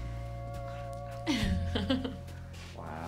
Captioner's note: laughs